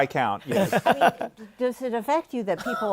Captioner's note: laughter